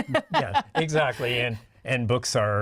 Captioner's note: laughing